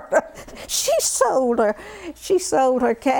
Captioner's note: laughter